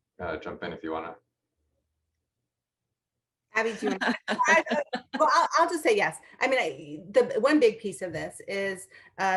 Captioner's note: laughter